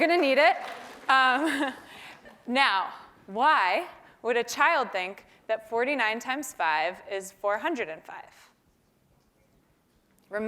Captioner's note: laugh